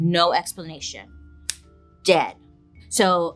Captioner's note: snaps